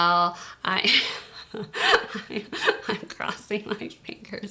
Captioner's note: laughs